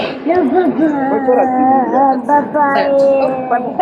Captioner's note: child crying